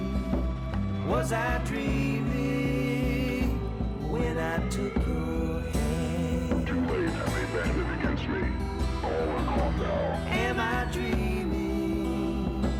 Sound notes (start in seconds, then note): 6.2 distorted voice